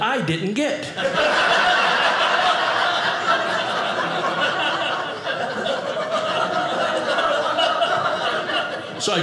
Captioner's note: audience laughing